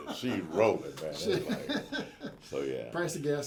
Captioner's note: laughs